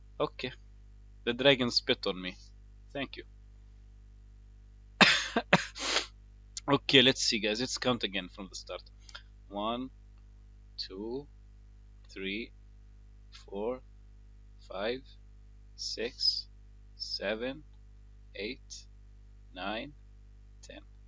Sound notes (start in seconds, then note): 5.0 coughs